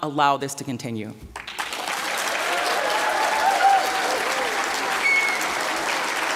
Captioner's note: applause, cheering